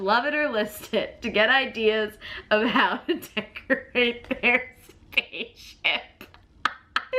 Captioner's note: laughs